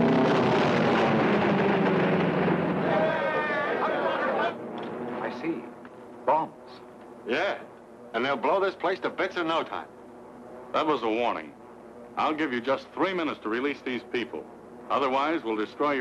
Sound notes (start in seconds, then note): 0.0 explosion booms; 2.7 crowd clamoring